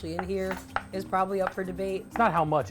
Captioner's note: knife chopping